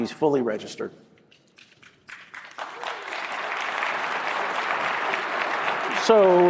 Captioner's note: applause